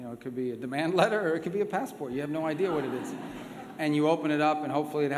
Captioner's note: laughter